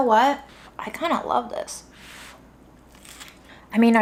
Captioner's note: crunches